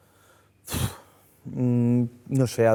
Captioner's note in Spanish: suspira